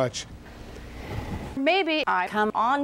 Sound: woman takes a breath

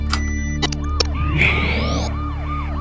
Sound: button pings; batsuit powers up

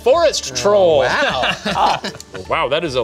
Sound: laughing

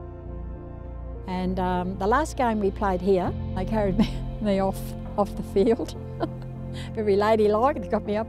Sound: laughs

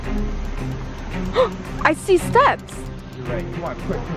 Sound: gasps

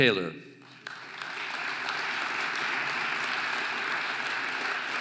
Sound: audience applauding

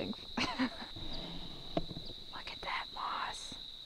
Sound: laughs

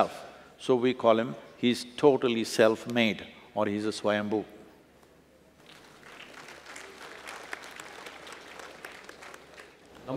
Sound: applause

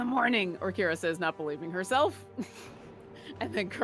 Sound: laughs

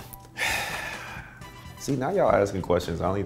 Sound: sighs deeply

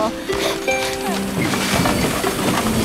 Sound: all grunting

